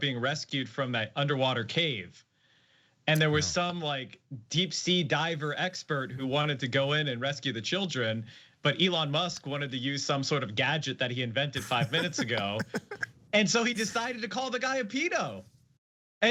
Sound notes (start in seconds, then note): 11.6 laugh